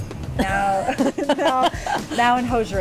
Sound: laughing

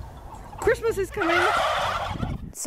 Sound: gobbling

